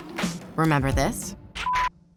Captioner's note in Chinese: 嗶聲